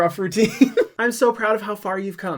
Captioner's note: laughs